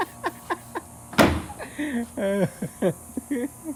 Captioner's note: laughing; bin slamming